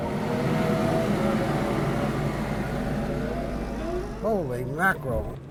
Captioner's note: front end loader motoring